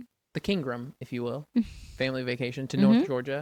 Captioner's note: laughs